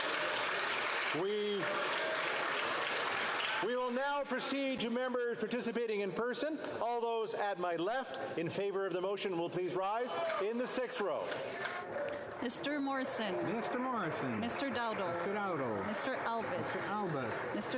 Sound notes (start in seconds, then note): 5.0 cheering and Applause